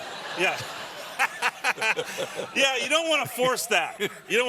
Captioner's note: laughter